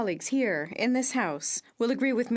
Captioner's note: speaking French